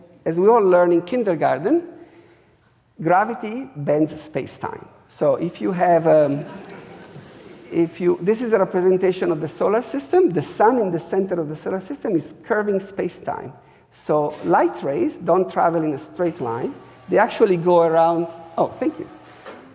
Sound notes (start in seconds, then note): 6.1 audience laughing; 15.8 screen buzzing